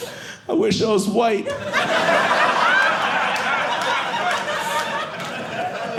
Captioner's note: audience laughing